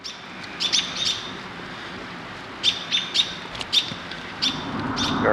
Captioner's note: birds